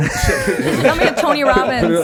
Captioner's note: laughs